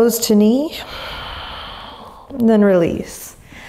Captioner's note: exhaling deeply